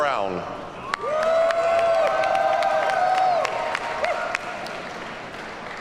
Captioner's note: audience cheers and applauds